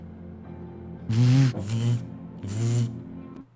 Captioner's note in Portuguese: Celular vibra